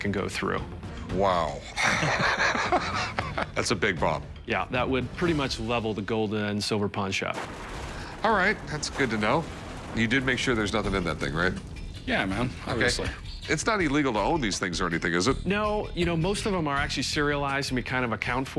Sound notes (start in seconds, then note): 1.6 laughs